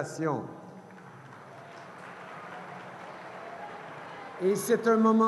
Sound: cheers & applause

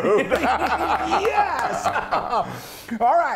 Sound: laugh

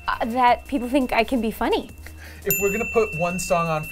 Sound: bell dings

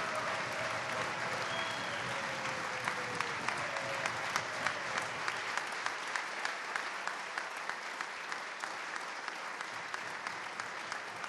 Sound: cheers and applause

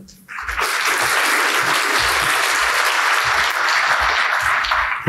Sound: audience applauding

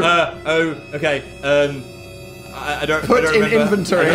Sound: Phil stammers

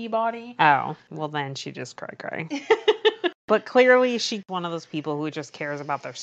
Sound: laughs

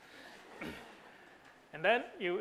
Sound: audience laughs

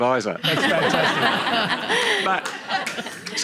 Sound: laughter

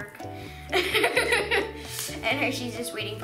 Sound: laughing

